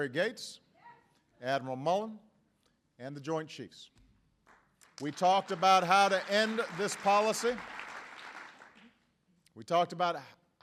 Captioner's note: applause